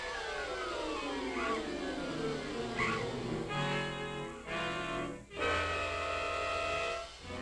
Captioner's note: dramatic music; bat shrieking